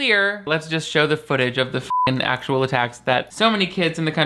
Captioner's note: beep